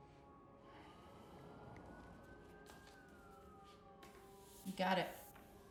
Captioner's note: sirens blaring